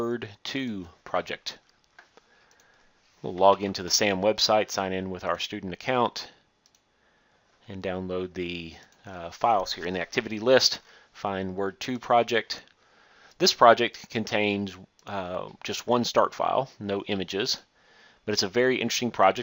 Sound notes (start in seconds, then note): 1.5 clicking; 6.6 click; 6.6 clicking